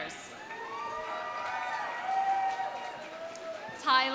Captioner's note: audience cheering; audience applauding